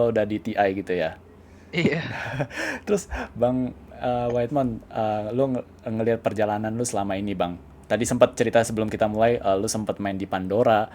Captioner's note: laugh